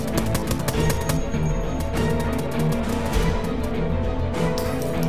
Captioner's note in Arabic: إطلاق النار مستمر